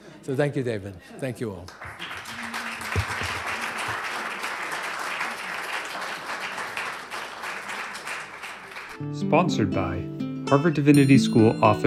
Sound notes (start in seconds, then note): 1.6 applause